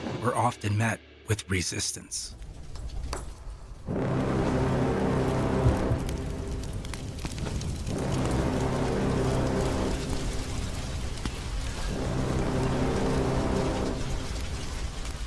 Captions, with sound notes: were often met with resistance. [ominous music] [fire crackling]